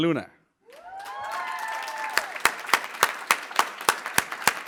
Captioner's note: applause